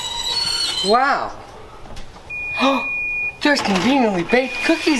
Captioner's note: gasp!